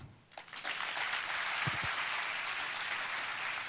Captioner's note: applause